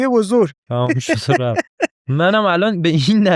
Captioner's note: laughs